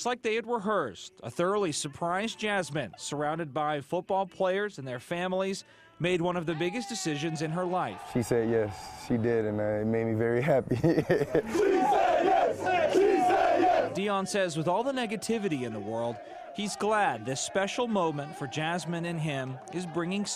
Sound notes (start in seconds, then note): 15.8 laughs; 16.7 chanting